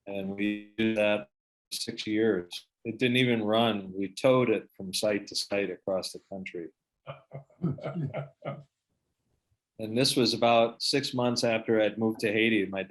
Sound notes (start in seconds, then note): 7.1 laughs